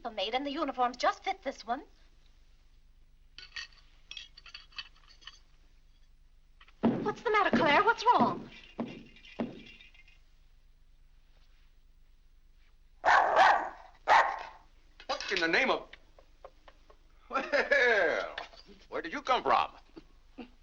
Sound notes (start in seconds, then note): 6.6 foot stomping; 8.7 lights rattling; 13.0 dog barks; 17.2 laughs